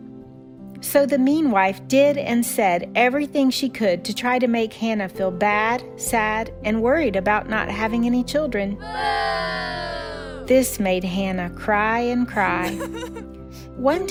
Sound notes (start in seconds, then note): 8.8 boooo!